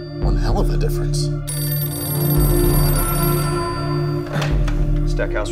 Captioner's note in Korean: 전화벨